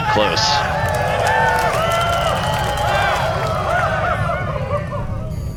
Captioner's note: cheering